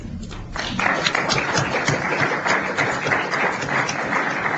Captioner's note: applause